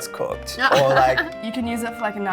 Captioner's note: laughing